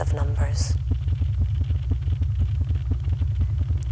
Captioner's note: scratchy pulse quickens